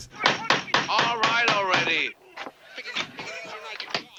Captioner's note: pounding